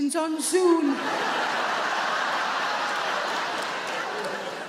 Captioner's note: audience laugh